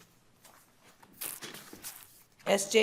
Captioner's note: paper rustling